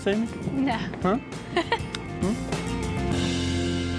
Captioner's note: giggling